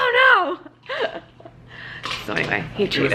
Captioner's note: laughing